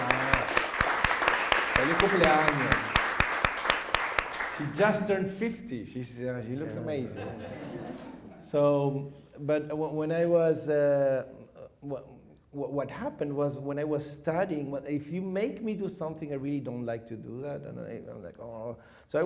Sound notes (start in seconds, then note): 0.0 applause; 7.2 chuckles